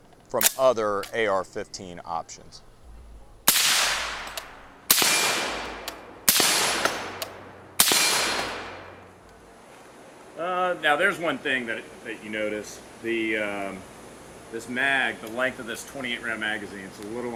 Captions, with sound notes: from other AR-15 options. (gun fires) Now there's one thing that you notice. This mag, the length of this 28 round magazine is a little